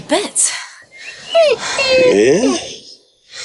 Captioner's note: wolf whines